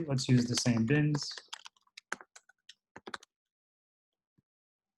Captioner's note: typing